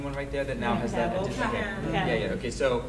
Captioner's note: people chattering